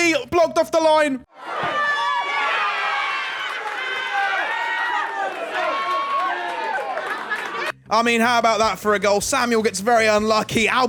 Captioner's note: applause